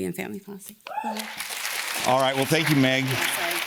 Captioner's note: audience cheers and claps